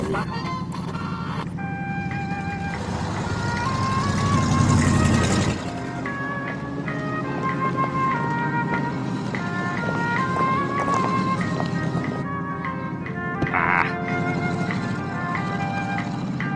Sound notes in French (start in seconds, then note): 0.1 Thème musical du flim; 13.4 Il grommelle